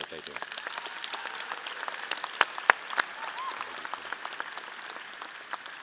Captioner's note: audience applause